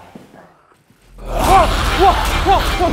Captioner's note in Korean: 누군가의 괴성